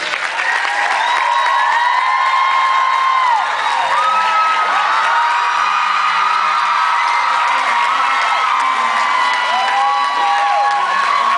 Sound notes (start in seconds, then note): 0.1 audience screams, cheers, applauds